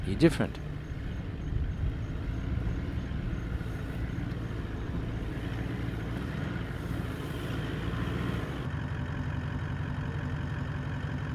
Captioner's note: vehicle sounds